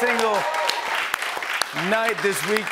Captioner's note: cheers and applause